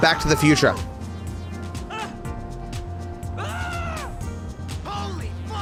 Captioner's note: NPC Screaming